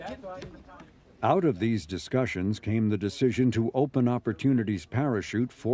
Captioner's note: crowd laughs